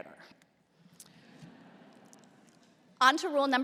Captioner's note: laughter